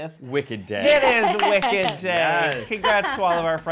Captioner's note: laughing